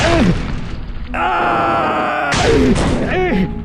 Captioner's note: Bill screams